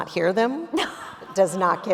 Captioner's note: audience members laughing; laughing